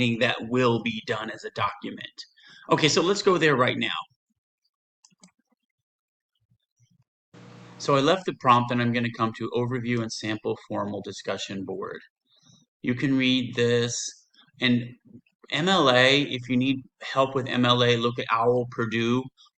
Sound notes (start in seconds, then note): 4.4 silence; 5.0 mouse clicks; 7.4 computer audio noise